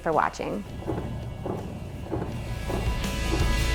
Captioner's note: footsteps